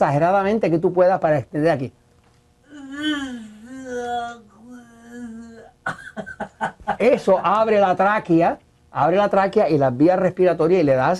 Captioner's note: laughs